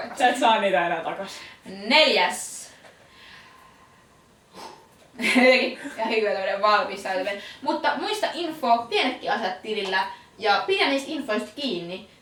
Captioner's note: sigh